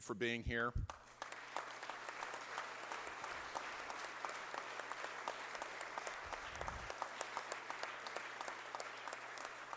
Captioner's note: applause